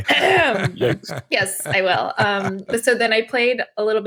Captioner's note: clears throat